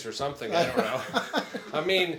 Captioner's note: attendee laughs